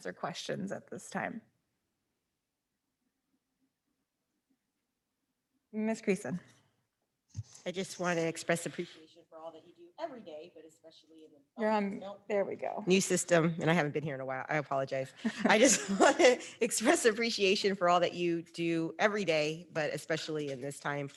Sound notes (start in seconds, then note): 10.1 faintly speaking